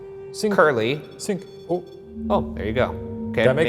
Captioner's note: REM-pod beeps